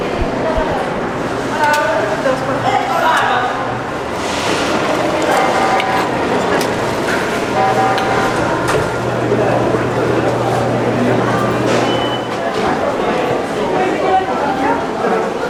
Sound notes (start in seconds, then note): 2.3 in Spanish